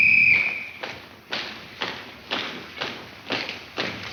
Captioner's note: whistle blares; footsteps click